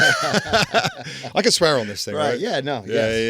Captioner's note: laughing